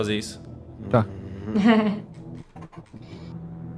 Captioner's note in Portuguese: risadas